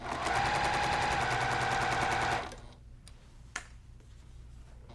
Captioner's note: sewing machine humming